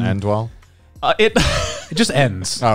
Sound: laughing

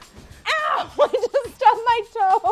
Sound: laughs

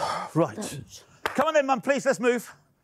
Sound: clapping hands

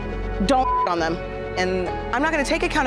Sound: beep

